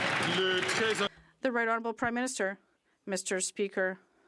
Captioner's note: some Applause